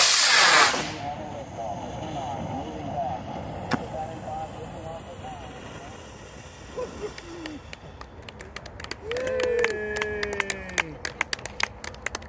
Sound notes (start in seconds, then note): 2.1 recorded audio trails off; 7.1 applause, cheering